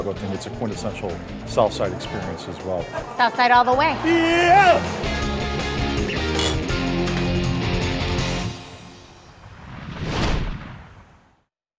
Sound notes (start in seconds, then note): 3.9 upbeat rock music; 9.5 whooshing and banging